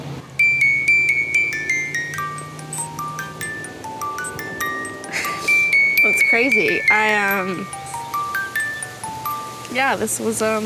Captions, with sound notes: (sniffles) That's crazy. I... Yeah, this was...